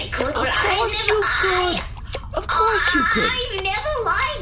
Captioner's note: querulously